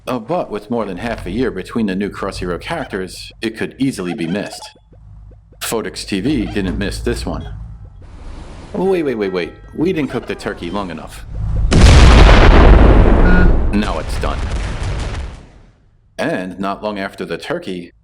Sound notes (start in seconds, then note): 11.3 boom!